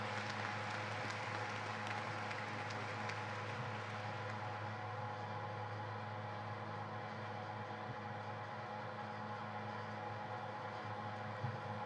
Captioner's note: applause